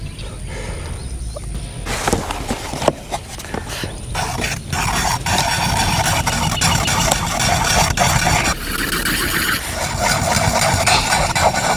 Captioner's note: wet squeezing and scraping as dark epoxy resin blends with hardener